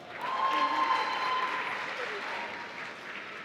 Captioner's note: applause